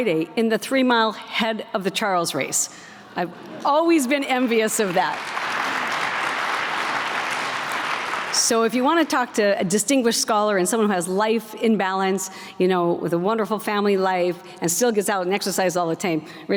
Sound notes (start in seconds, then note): 4.4 applause